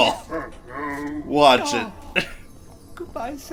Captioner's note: laughs